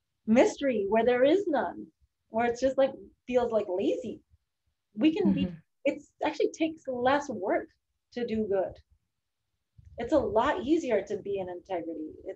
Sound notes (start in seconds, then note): none